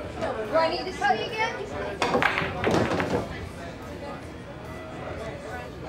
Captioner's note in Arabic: طقطقة كرات البلياردو